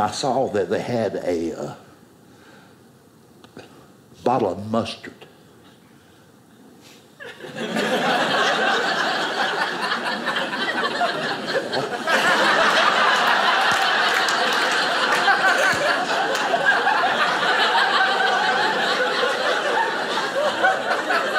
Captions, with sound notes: and I saw that they had a . . . bottle of mustard. (audience laughing)